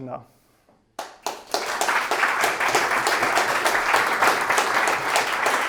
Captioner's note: students clapping